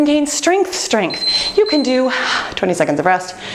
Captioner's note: timer beeping